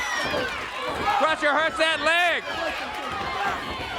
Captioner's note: crowd cheering